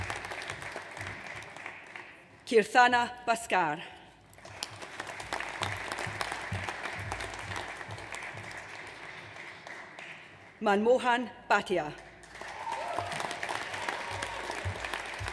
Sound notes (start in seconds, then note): 4.4 audience applauds; 12.1 audience applauds